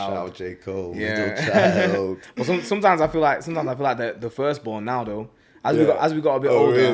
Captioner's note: laughs